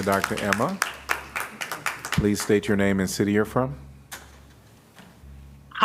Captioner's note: applause